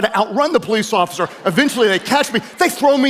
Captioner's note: audience laughing